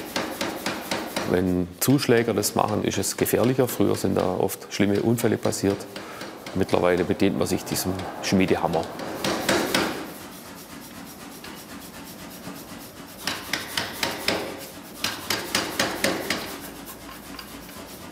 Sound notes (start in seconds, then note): 9.5 cheeping rattling